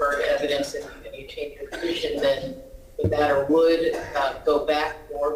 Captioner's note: ~distortion~